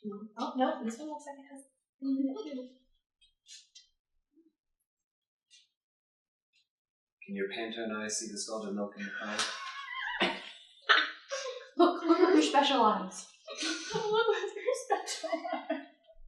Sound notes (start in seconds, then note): 9.0 laughter; 14.9 laughing and repeating